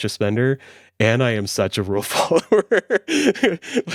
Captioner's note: laughs